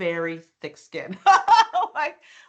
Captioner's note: laughing